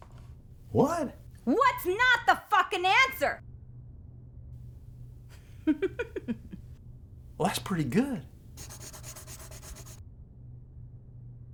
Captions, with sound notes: What? "What" is not the fucking answer! [laughing] Well, that's pretty good.